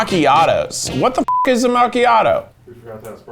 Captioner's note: beep